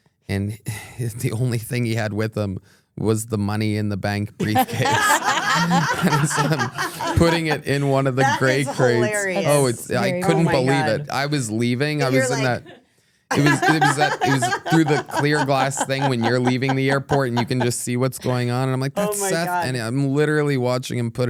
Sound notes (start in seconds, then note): 13.3 Stephanie laughing